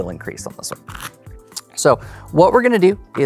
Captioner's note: cards riffling